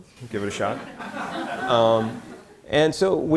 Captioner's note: audience laughter